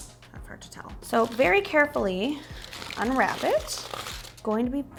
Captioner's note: foil crackling sounds